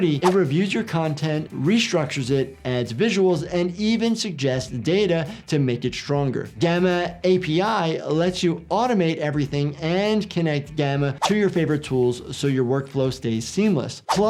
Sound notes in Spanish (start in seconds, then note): none